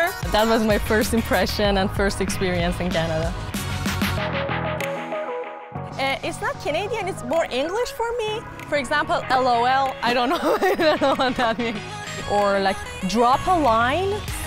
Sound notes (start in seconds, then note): 4.3 upbeat music; 10.2 laughs